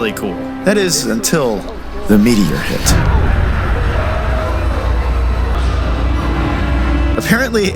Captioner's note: thunder